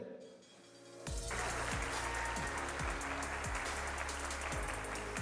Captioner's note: applause